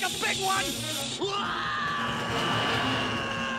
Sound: screaming

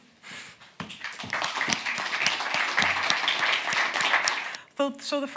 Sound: audience clapping

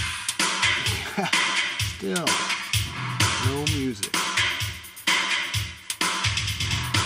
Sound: chuckles

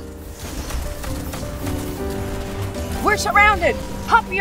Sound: gaming noises

